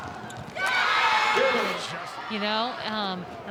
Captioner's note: ball thumping; audience cheering